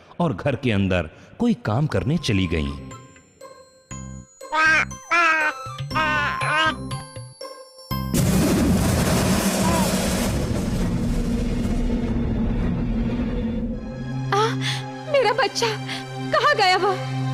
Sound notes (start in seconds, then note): 4.5 baby laughs